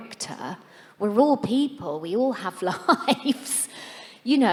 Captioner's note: laughs